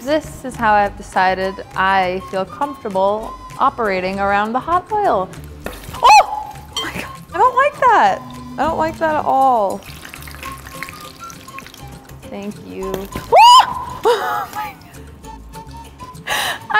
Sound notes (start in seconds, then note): 5.5 oil popping; 6.0 screaming; 9.9 boiling oil; 9.9 upbeat music; 13.1 oil popping; 13.2 screaming; 14.0 laughs